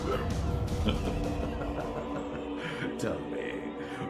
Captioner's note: sinister male laughter